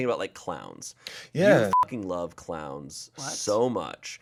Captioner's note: beep